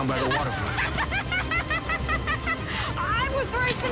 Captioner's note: laughing